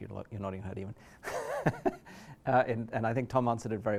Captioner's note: chuckles